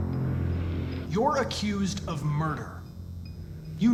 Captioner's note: none